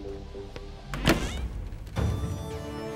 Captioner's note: Door closes